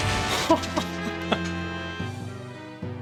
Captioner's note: laughs